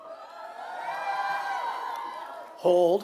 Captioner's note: cheering